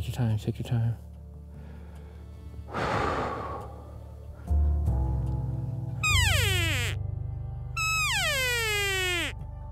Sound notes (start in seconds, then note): 2.7 exhaling; 6.0 elk call